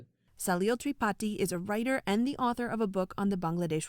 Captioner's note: voice-over